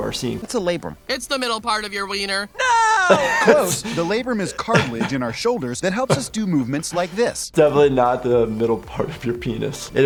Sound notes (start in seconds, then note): 2.5 laughs